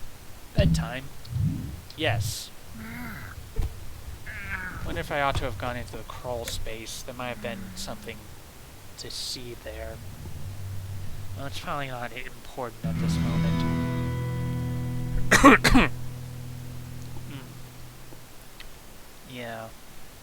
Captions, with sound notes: "Bedtime?" Yes. Wonder if I ought to have gone into the crawlspace. There might have been something- to see there. Well, it's probably not important at this point. *guitar sting* *coughing* Hmm. Yeah.